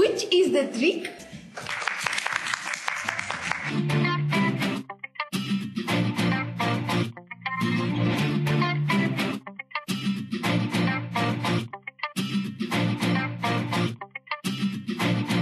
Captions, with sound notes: Which is the trick? (Applause) Don't miss next episode.